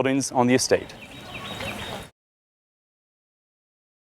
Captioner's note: chirping